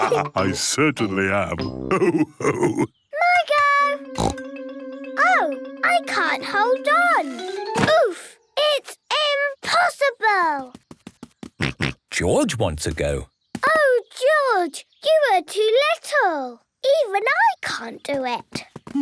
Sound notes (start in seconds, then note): 0.0 all laugh; 4.2 snorts; 11.2 snorts